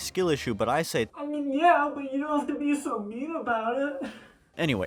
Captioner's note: crying